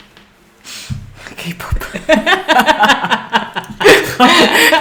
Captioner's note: they laugh at how stupid it was